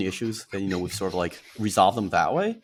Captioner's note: laughs